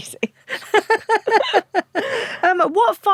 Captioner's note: both laugh